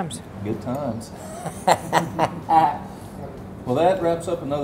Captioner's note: laughing